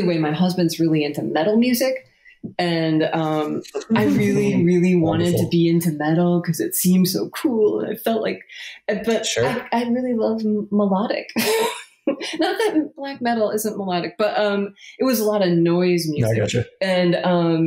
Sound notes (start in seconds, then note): 9.2 laughs